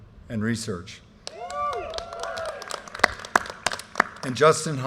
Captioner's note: audience cheers and applause